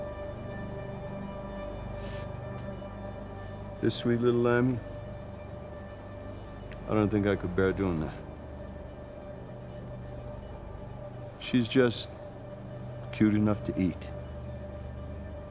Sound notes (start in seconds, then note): none